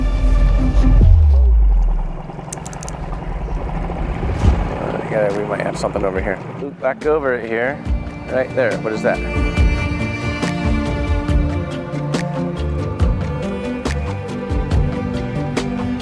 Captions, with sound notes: (boat puttering) - Yeah, we might have something over here. Back over it here. Right there, what is that? (upbeat music)